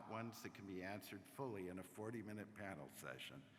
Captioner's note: applause